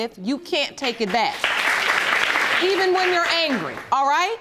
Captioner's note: audience applauding